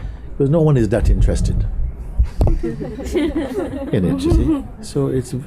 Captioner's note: laughter